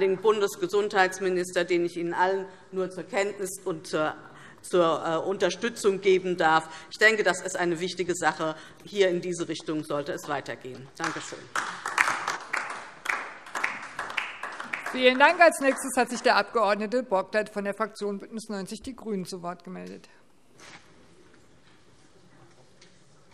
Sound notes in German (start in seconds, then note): 11.0 Beifall DIE LINKE